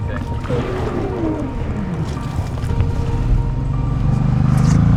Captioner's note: engine rumbling